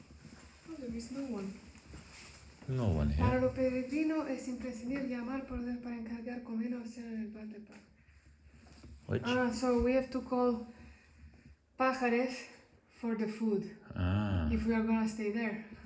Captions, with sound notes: There is no one. No one here. (speaking Spanish) What? So we have to call Pajares for the food. If we are going to stay there.